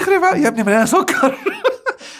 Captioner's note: laughs!